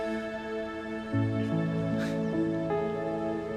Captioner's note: chuckling